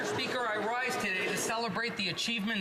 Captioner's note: some Applause